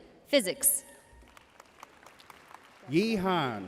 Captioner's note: audience cheering and applauding throughout